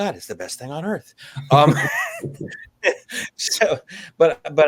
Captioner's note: chuckles